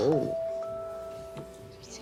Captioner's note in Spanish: Alerta de mensaje de texto